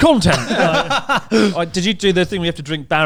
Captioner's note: laughs